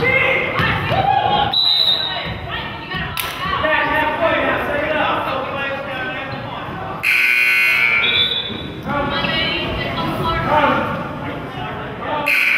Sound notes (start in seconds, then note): 1.5 whistle blows; 7.0 buzzer goes off; 9.1 whistle blows